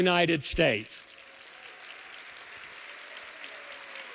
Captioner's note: applause